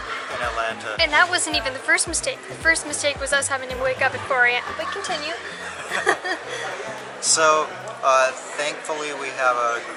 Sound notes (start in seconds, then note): 5.4 both giggles